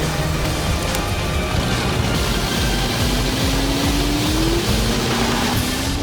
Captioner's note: gun fires; boat engine roaring